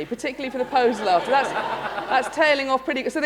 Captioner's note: laughter